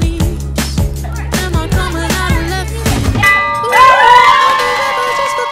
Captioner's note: bell ringing